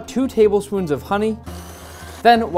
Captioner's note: mixer running